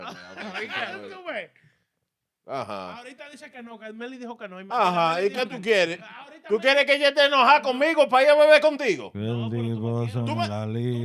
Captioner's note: speaking In Foreign Language